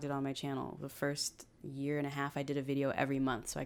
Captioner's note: none